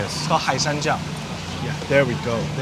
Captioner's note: man speaking foreign language